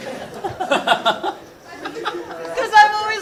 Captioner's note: both laughing